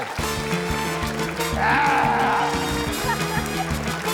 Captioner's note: grunts